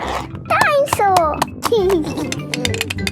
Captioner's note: giggling